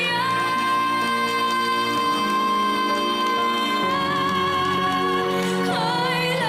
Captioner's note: crowd applauding